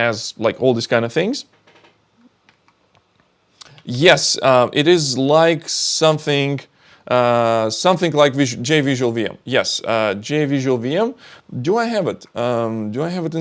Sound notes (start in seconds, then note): none